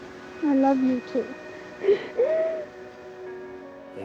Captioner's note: sobs